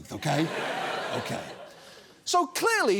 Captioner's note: audience laughs